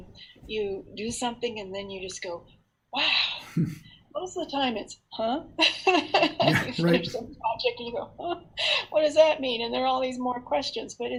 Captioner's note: laughter